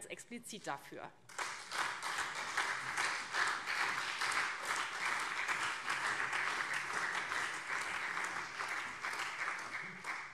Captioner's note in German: Beifall SPD und CDU